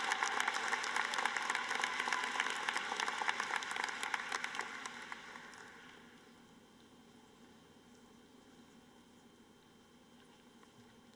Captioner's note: applause